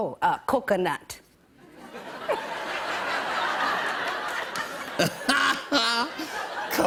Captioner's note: laughter